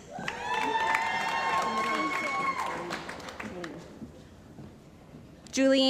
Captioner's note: cheering & Applause